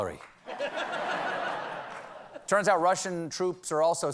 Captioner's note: laughter